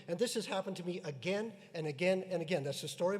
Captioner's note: none